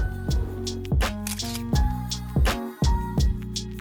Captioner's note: upbeat music; camera shutter clicking; upbeat music